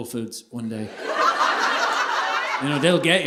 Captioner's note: audience laughing